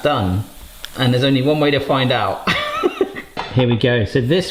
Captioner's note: chuckles